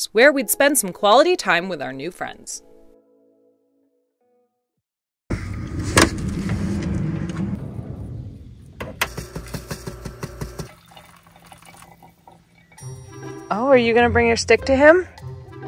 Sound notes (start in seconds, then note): 5.3 door glides; 9.3 shuffling; 10.6 water trickles